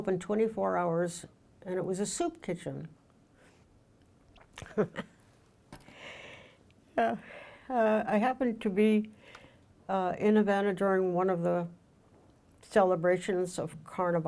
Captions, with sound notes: and it was a soup kitchen. (laughs) I happened to be in Havana during one of the celebrations of Carnival.